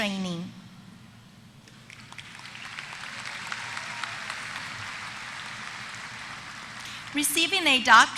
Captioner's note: applause